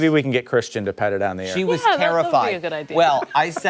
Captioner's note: laughter